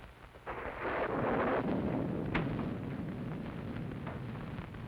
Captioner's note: thunder crashing